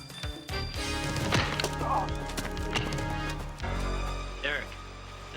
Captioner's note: man groaning; skin smacking